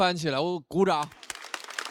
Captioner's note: applaud